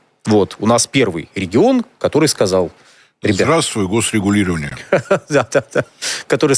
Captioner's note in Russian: смех